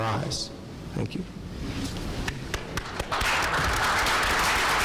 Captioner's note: applause